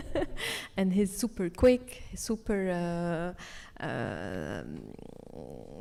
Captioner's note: speaks French